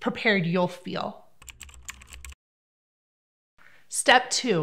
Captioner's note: typing